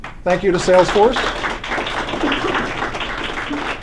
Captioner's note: applause